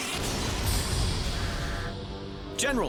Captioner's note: button clicks, rocket blasts; explosion